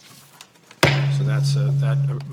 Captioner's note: gavel bangs